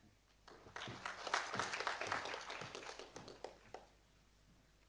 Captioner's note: audience applauding